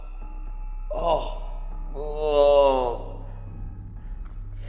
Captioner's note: pained Groaning